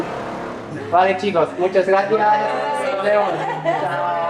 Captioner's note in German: auf Spanisch